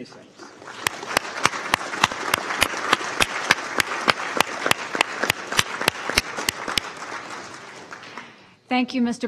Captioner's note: applause